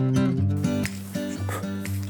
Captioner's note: puff!